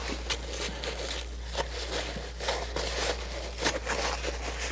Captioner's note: scratching